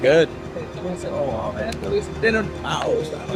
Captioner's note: indistinct chatter